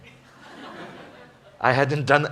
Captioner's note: laughter